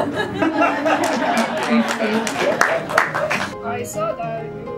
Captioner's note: laughs and claps